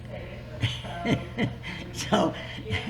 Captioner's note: laughs